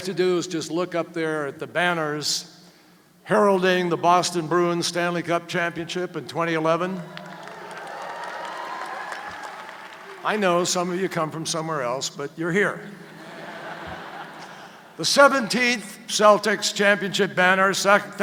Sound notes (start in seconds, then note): 7.1 applause; 13.0 laughter